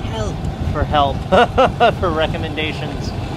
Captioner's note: laughs